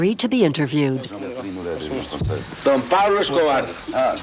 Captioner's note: Spanish spoken audio